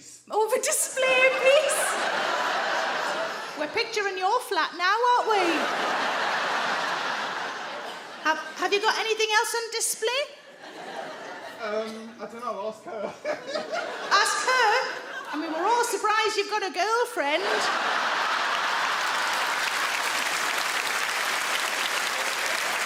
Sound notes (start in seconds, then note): 1.1 audience laugh; 5.2 audience laugh; 14.1 laughs; 17.2 audience laugh; 17.6 audience clap